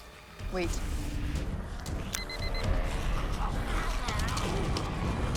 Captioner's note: device beeps